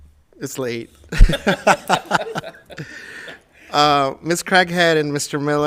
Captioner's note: laughing